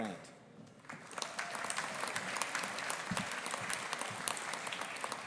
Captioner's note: audience applauding